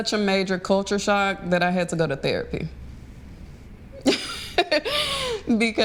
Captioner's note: chuckles